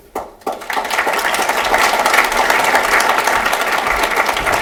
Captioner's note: applause